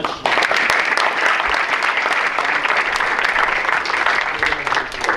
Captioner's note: audience applauds